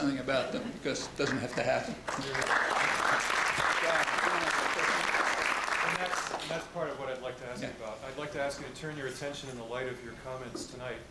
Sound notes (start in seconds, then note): 2.0 applause